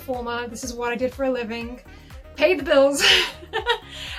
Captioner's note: chuckles